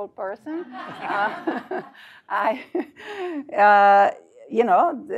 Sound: laugh

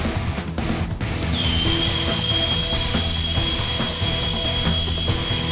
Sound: welding machine crackling

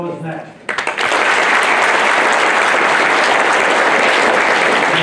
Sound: applause

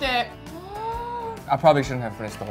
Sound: gasps

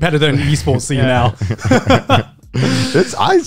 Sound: laughing

